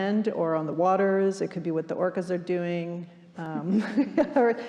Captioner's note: laughing